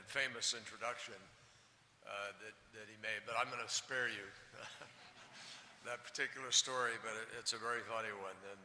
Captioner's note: laughter